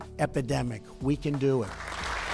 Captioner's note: applause